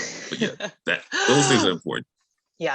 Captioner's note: laughing